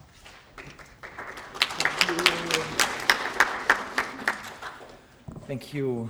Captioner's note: applause